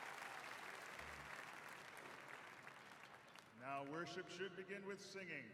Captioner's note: applause